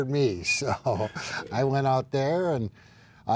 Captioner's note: laughs